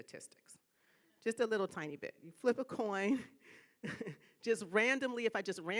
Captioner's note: laughing